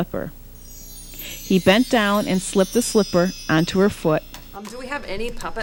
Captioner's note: magical chimes